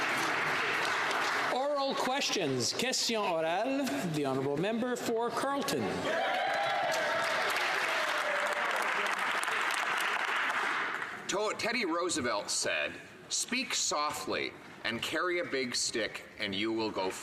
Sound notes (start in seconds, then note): 0.0 some Applause; 6.5 speaking French; 9.0 some Applause